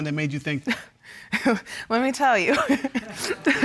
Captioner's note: laughs